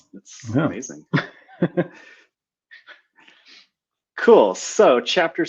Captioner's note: laughing